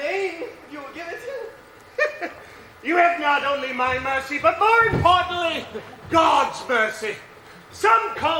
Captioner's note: laughs